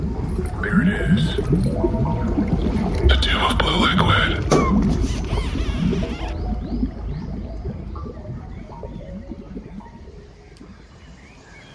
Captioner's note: The Tube of Blue Liquid bubbles